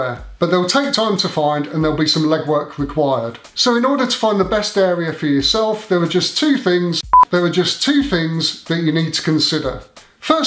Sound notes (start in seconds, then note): 7.0 beep